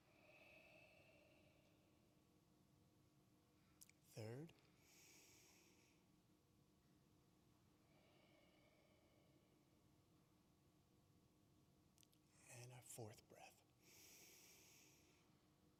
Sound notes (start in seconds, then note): 0.5 exhales; 4.8 inhales; 8.4 exhales; 13.8 inhales